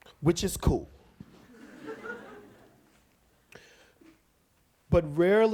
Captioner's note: audience laughs